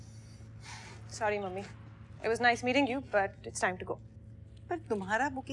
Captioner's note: Sighs